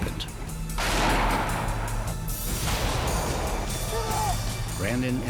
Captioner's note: explosions